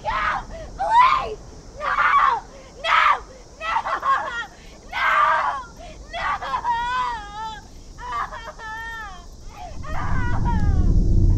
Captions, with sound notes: Please, no! No! No! No! No!(sobs) (Morgan sobbing)